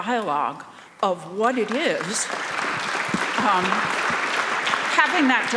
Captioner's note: audience applauding